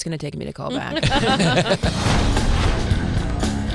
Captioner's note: Fortune and Tom laughing; heavy rhythmic music